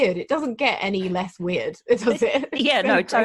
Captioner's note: laughs